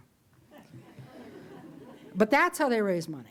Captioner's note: audience chuckles